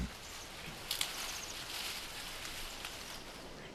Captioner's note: husk cracking